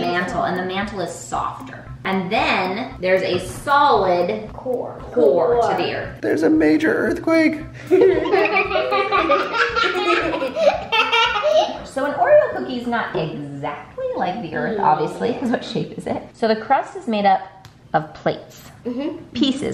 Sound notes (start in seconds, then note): 7.8 laughter